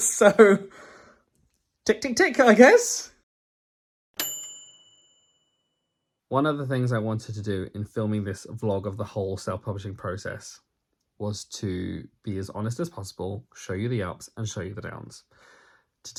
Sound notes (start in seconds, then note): 4.2 bright bell dinging